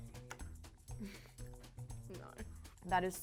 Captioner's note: laughing